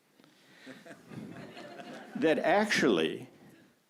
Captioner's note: audience laughs